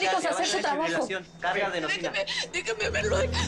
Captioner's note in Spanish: Hablan al unísono